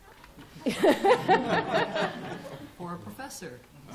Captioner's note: laughter